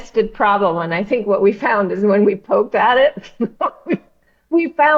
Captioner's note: laughs